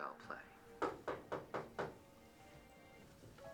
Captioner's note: knocking